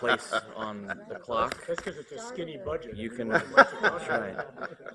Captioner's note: laughter